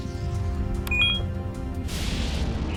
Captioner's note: beeps